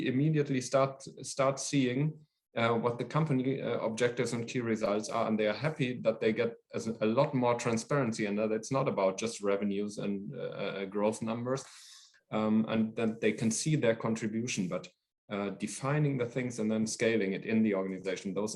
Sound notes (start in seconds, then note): none